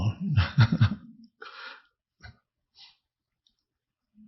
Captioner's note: Eckhart laughing